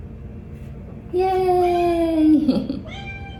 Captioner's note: chuckles